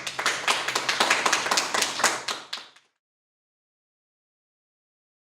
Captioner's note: clapping